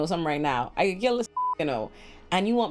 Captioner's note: beep